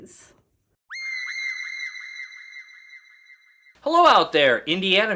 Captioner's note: shrill shrieking